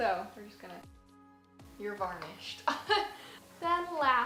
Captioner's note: laughs